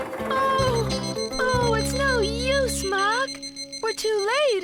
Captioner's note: crosswalk Beeping